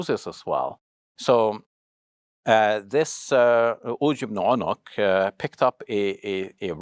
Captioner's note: foreign language